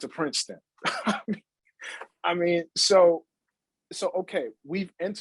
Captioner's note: chuckles